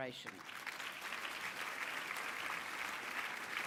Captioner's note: applause